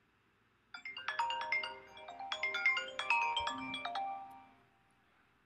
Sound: phone rings

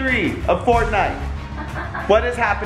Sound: laughs

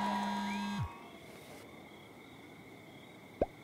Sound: buzzing

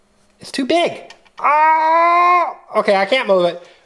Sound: groaning

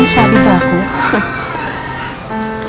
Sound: chuckles

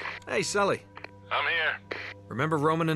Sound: radio

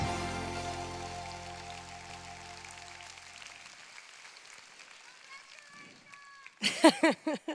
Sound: applause

